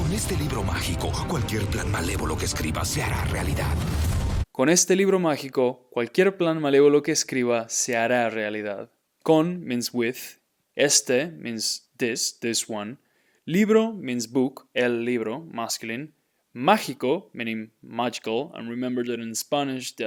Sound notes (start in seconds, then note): 0.0 dramatic music; 0.2 speaking in Spanish; 4.7 speaking in Spanish; 12.8 speaking in Spanish